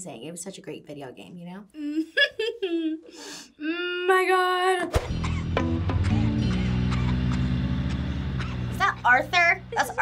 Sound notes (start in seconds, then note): 1.9 laughs; 6.0 boy coughing